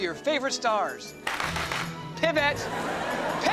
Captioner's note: clapping